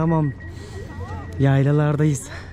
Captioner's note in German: atmet tief ein